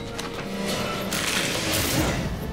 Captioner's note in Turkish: İnleme sesleri; Müzik - Gerilim